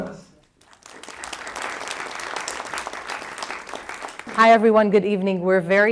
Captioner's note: applause